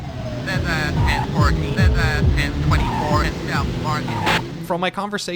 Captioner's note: police radio chatter